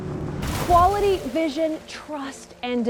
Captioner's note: whoosh